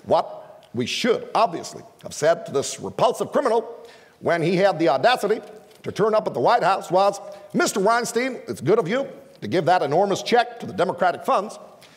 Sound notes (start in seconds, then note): none